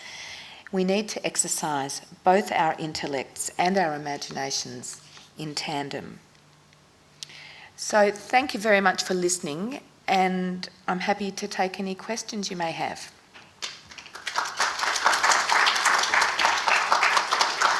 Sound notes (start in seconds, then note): 13.6 audience claps